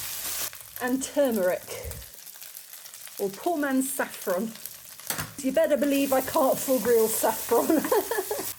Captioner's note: laughing